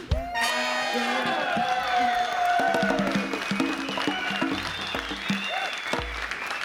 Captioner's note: audience cheering and applauding